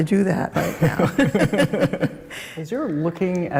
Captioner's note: both laugh